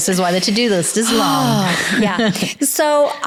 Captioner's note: chuckles